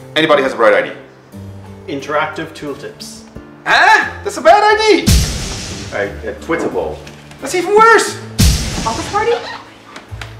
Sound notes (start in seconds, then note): 5.0 poof!; 8.3 poof!